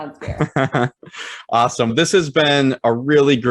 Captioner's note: laughing